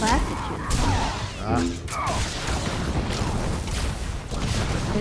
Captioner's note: grunting